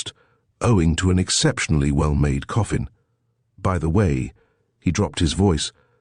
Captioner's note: he dropped his voice